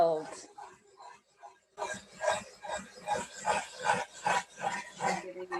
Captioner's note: markers scratching